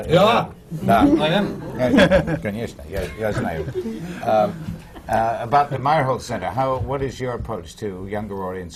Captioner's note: foreign language not transcribed